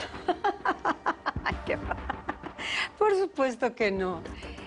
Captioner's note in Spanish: Risas